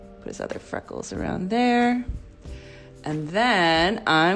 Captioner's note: none